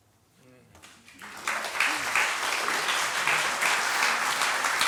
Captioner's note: applause